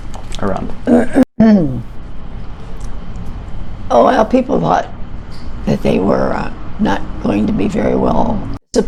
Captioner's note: clears throat